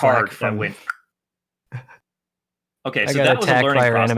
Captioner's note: click